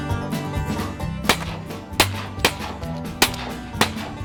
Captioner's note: gunshots